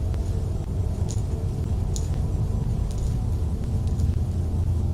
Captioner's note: object rustling